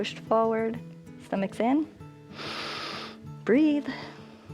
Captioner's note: inhales